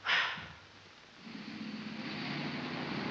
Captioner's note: car rumbling